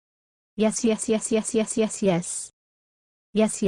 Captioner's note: voiceover